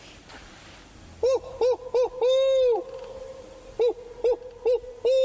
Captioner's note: imitates gobbling